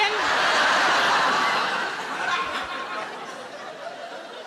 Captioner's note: audience laughing